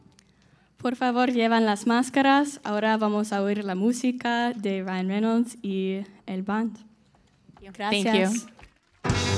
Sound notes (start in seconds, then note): 1.2 speaking in Spanish